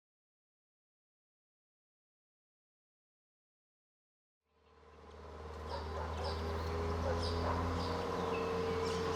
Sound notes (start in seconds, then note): 5.5 birds chirping; 7.0 car driving